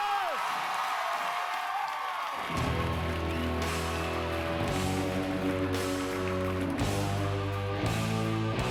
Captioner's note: cheers and applause